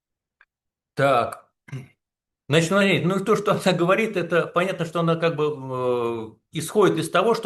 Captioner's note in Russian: откашливается